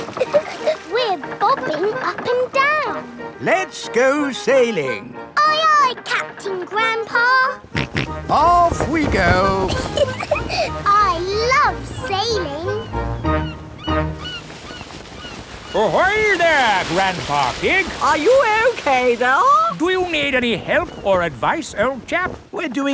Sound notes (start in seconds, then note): 0.1 chuckles; 7.7 snorts; 8.8 giggles